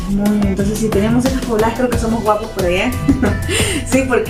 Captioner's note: laugh